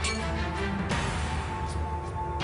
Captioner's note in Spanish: Chocan los vasos